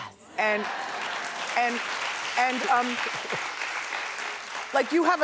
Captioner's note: applause